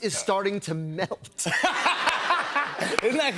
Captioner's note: laughter